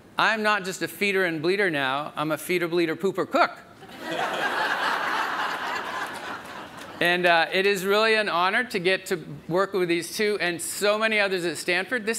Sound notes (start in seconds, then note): 3.9 audience laughs